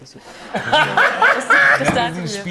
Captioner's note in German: Lachen